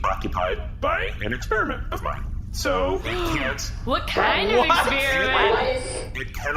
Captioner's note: gasps